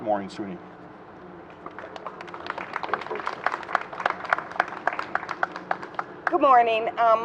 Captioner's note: applause